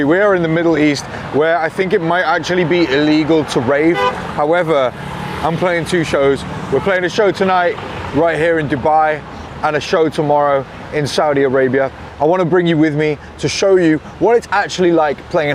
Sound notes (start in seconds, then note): 3.8 car honks